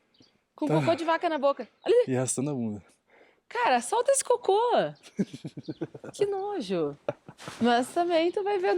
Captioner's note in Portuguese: risadas